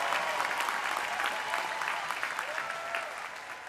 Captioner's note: cheers and applause